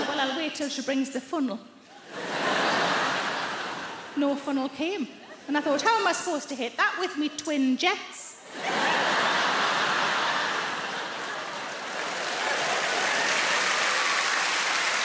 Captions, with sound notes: and I thought, "Well, I'll wait till she brings the funnel." No funnel came, and I thought, "How am I supposed to hit that with me twin jets?" (audience laughing) (audience applauding)